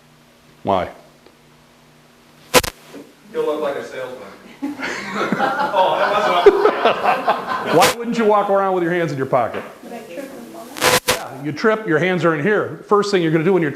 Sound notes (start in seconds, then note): 4.6 audience laughter